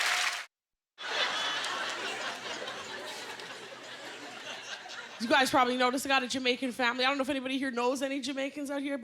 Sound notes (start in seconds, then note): 3.7 laughter